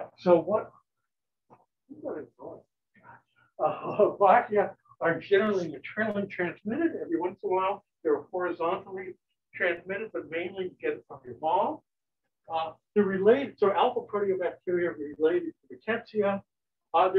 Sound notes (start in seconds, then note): 3.6 chuckles